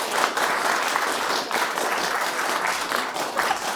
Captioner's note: crowd claps